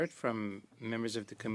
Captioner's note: speaking French